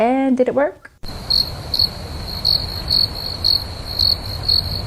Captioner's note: crickets chirping